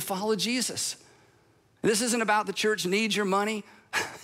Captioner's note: laughs